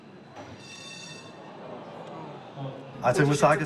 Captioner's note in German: Klingeln, Raunen